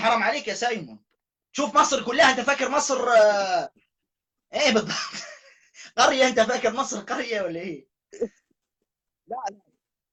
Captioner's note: laughter